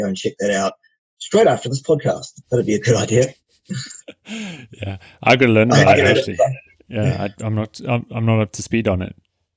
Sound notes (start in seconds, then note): 3.6 laughing